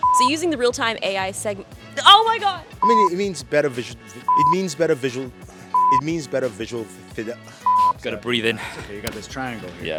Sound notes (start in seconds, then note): 6.9 stutters